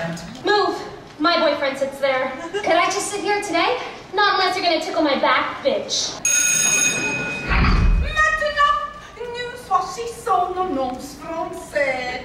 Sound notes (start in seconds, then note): 6.2 bell rings